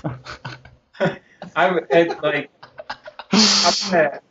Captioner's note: interviewers continue laughing; chuckles; interviewer laughs